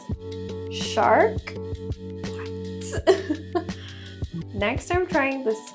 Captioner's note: laughs